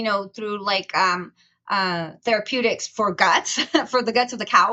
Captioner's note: chuckles